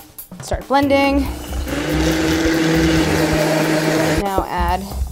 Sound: blender loudly rumbling

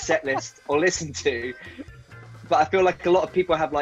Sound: laughing

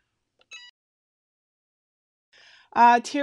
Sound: EasyPress beeping

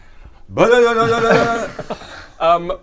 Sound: brrrlelelelelele

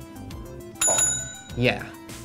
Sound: bell rings; voiceover

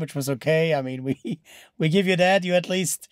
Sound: laughs

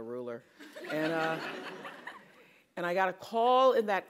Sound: laugh

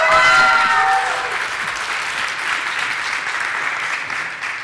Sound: applause

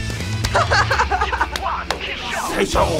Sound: rock music; laughs

